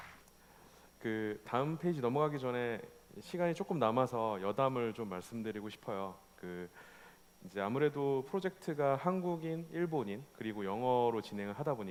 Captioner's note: applause; speaking korean